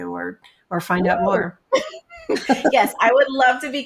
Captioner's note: laughs